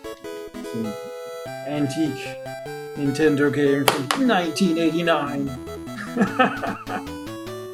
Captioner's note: laughs